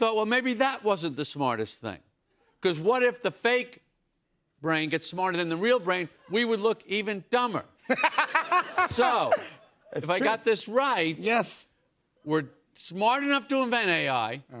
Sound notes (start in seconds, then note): 7.9 laughs